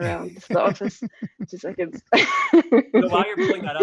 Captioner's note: laughs